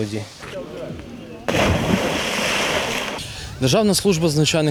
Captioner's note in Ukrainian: звук від пірнання у воду